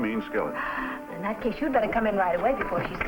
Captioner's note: gasps